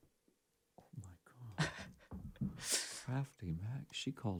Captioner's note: Courtney chuckles